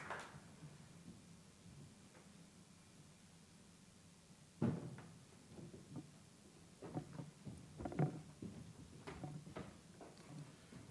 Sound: applause

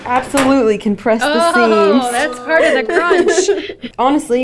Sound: laughs

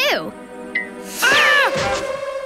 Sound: screaming

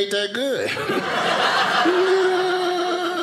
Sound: laughing; audience laughing

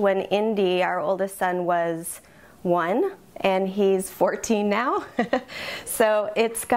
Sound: giggles

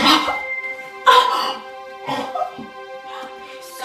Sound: gasping sound

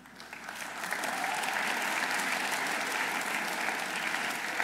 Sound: audience applauding

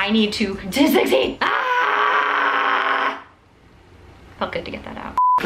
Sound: yells

